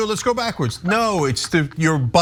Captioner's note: laugh